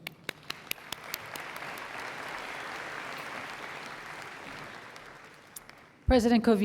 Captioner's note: applause